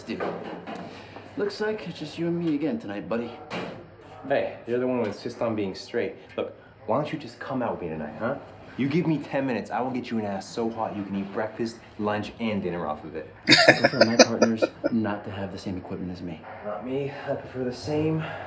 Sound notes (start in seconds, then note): 13.4 laughing